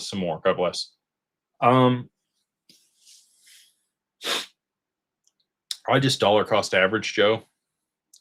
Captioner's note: snorts